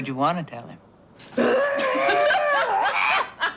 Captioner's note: mock growling; laughter